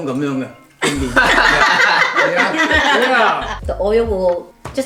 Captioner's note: laughs